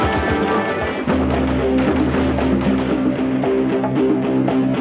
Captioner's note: gunshots firing; upbeat techno music